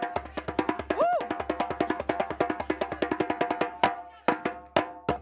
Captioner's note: artist cheers